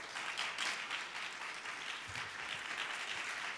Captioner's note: applause